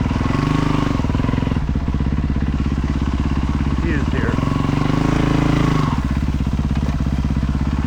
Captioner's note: engine revving